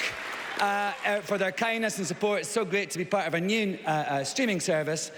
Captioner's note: applause